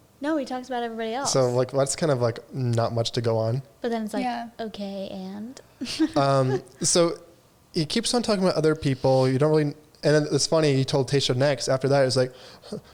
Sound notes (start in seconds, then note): 5.8 chuckles